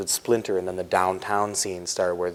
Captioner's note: none